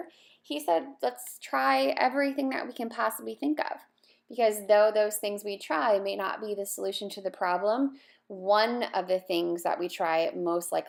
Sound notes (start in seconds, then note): none